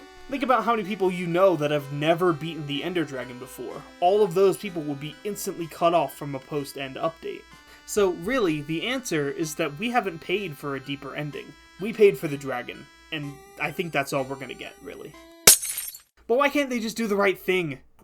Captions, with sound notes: Think about how many people you know that have never beaten the ender dragon before. All of those people will be instantly cut off from a post-End update. So really, the answer is that we haven’t paid for a deeper ending. We paid for the dragon. And I think that’s all we’re gonna get, really. —[Minecraft glass breaking noise] —But why can’t they just do the right thing?